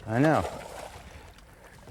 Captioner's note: splash